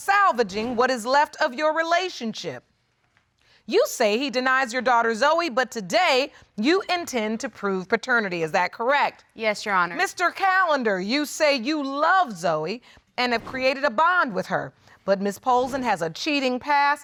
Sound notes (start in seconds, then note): none